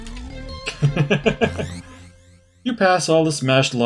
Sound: laughs

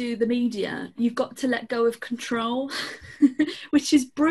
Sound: laughs

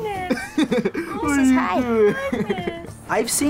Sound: chuckles

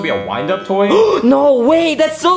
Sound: Luigi gasping

